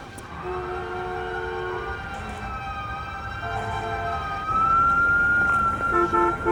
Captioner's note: tense music; sirens wailing; horns honking